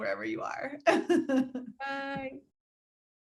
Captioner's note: laughing